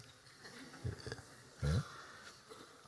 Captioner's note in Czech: Smích